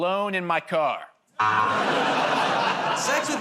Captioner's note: buzzer